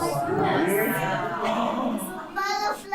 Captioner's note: people chattering